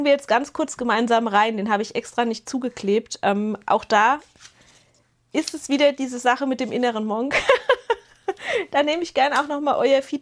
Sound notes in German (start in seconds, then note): 7.3 gelächter